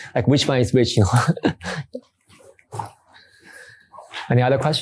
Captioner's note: chuckles